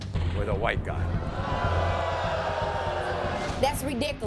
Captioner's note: audience gasping